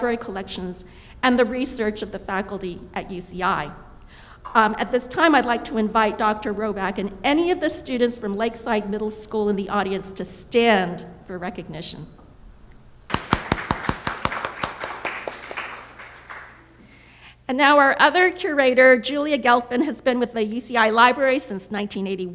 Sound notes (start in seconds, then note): 13.0 applause